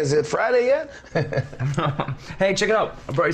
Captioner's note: laughs